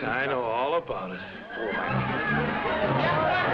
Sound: man speaking foreign language; partygoers laughing; upbeat music

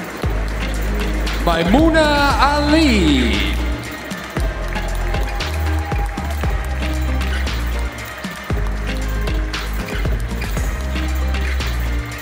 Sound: applause

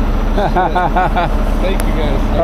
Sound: laughs

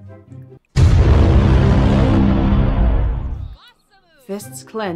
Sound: Inception BWAAAHH

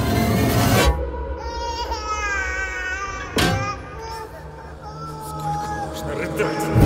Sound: baby crying

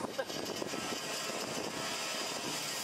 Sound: sawing

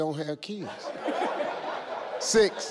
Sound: people laughing

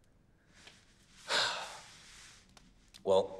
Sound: sighs

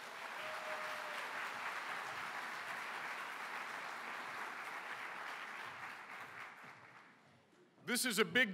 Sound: applause

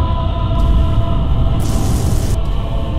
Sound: emperor's laser fires

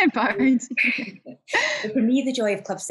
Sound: laughs

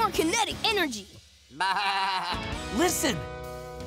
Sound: bleating

